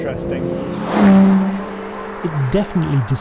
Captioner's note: car whooshing